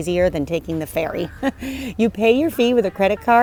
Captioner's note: chuckles